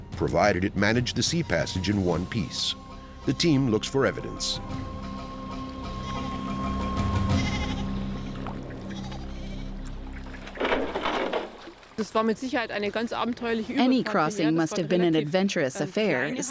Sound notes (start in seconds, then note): 5.8 sheep bleating; 12.0 speaking German